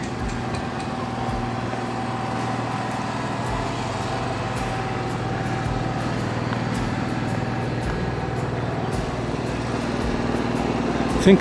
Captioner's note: generator humming over background music